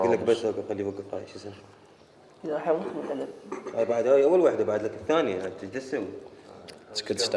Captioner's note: Iraqi speaking Arabic